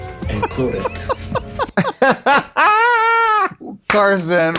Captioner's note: everyone laughs